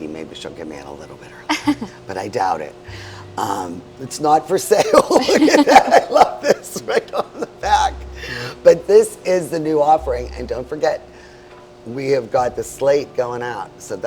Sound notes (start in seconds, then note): 1.5 chuckles; 4.9 laughing